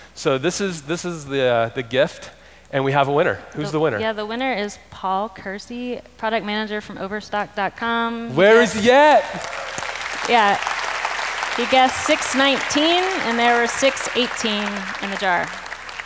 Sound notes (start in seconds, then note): 9.6 crowd applauds